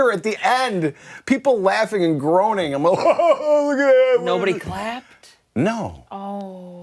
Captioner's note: laughter